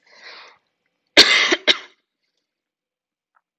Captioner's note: coughs